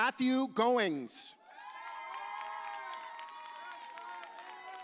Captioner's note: audience cheers